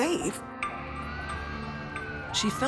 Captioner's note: emergency sirens blaring